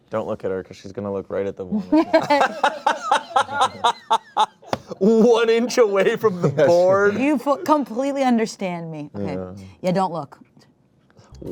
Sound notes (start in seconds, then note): 2.0 laughs